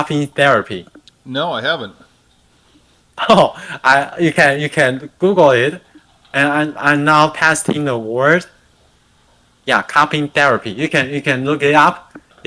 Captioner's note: non-english speech